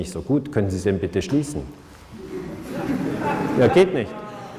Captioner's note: ashamed laughter